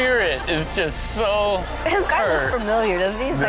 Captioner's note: audience laughs